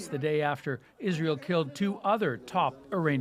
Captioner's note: speaking alternate language